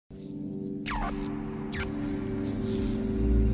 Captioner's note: electric buzzing